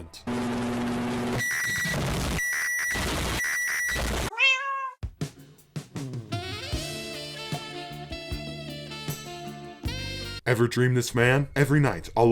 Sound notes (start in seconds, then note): 0.2 microwave buzz; 4.3 meow